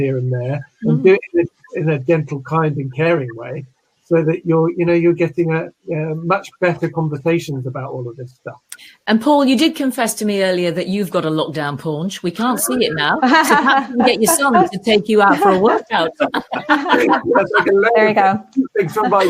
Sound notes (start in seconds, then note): 16.8 laughing